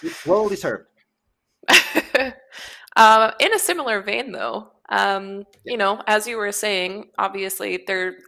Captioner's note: laughs